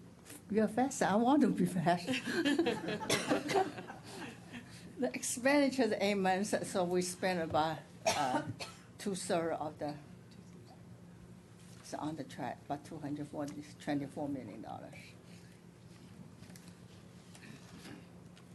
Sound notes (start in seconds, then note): 2.0 laughter